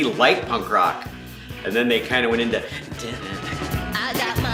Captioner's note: vocalizes; upbeat music